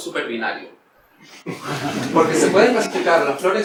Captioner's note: laughter